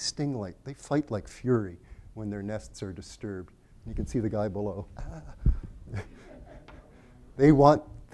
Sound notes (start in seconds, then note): 5.7 screams quietly; 5.8 laughter